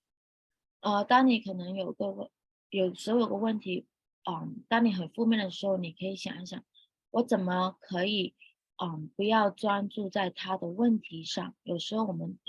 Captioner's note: speaking chinese